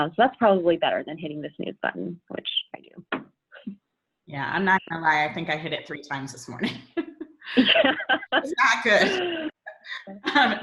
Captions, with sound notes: So that's probably better than hitting the snooze button which I do. -: Yeah, I'm not gonna lie. I think I hit it three times this morning. (laughing) That's not good.